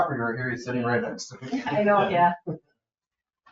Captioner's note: laughs